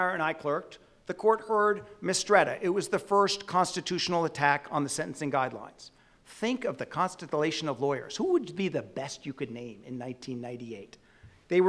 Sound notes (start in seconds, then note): none